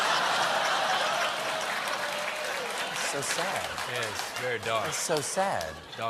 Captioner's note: laughter